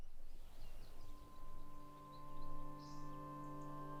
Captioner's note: birds chirping; calm music